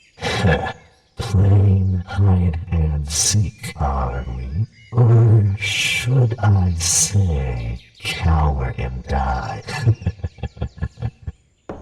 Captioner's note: dark Chuckle